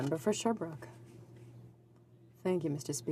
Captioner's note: speaking French